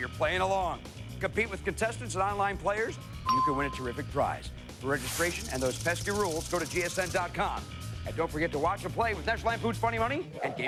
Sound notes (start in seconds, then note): none